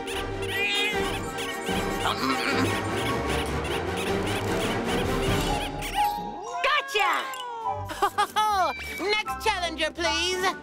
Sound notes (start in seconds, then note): 0.5 Alan meows; 1.5 intense music; 1.5 toy squeaking; 7.8 laughs